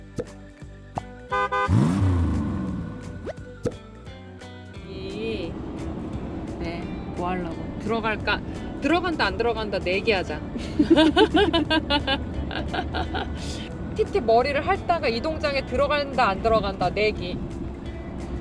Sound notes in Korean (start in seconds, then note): 10.6 웃음